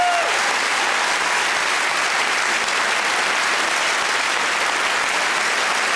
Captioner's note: audience whooping; audience applauds